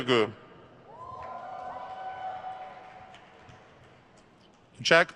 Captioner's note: crowd cheers